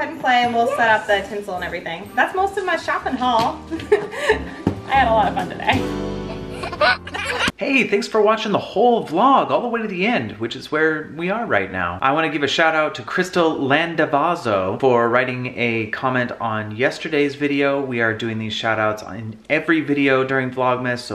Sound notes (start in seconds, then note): 6.2 baby laughing